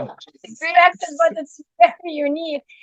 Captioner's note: laughing